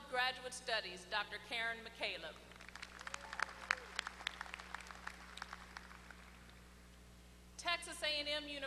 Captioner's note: applause